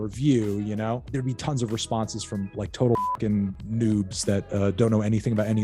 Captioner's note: beep